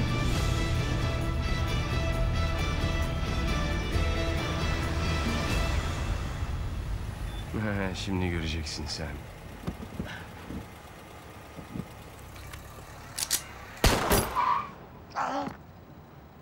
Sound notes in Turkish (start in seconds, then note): 0.0 Müzik - Gerilim; 9.5 Araba sesi; 13.1 Şarjör sesi